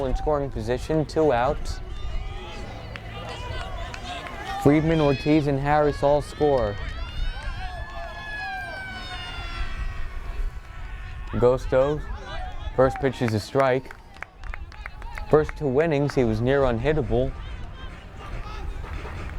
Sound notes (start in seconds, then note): 7.8 fire-engine siren wails